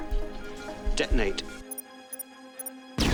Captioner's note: device chirps